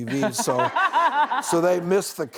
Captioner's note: laughing